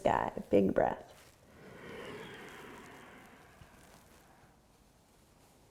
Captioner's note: inhaling